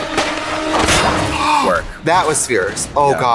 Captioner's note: Trixie gasps